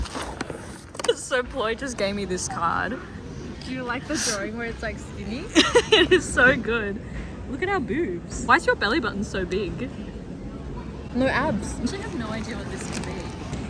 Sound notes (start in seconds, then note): 5.5 laughs